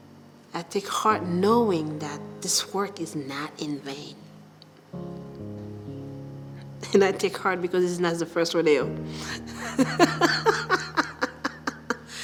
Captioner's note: laughter